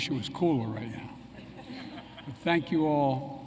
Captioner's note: laughter